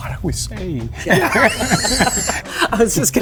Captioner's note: laughing